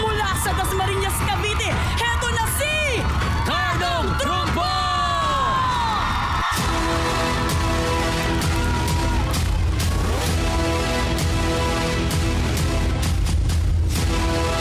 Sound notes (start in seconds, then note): 6.0 crowd cheering; 6.5 suspenseful music playing